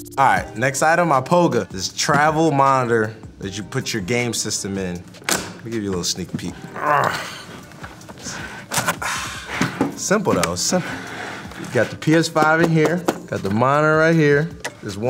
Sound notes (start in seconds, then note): 6.6 grunting